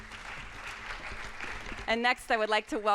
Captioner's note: audience applauds